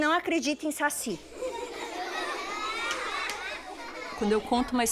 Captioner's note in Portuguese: risos